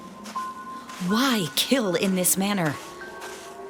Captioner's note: soft footsteps